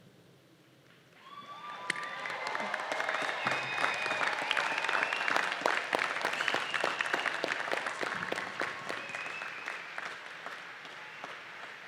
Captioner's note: applause